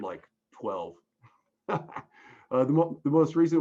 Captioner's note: laughs